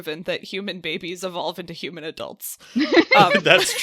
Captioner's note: laughs